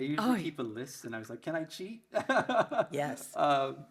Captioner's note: laughs